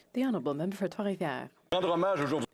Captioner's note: applause